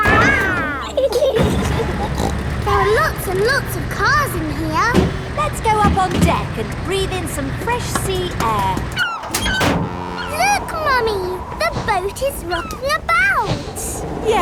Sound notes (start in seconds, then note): 1.5 giggling; 2.2 snorts